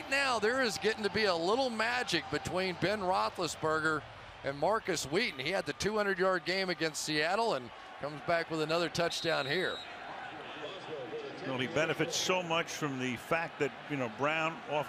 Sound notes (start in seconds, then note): 9.1 whistle blowing